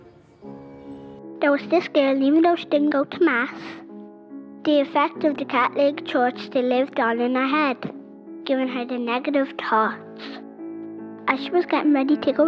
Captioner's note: little girl's voiceover